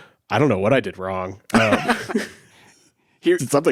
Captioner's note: laughs